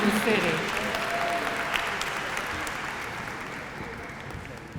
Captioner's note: applause